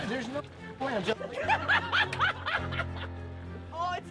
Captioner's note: laughing